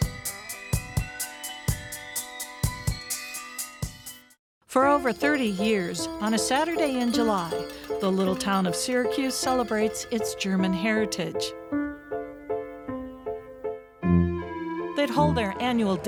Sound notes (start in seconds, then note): 0.0 upbeat music; 4.8 bells jangling; 4.8 playful piano music